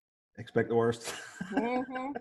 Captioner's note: laughing